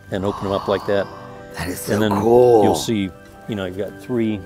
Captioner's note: gasps